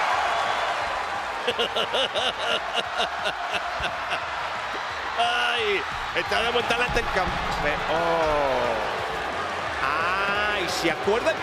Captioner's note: applause; laugh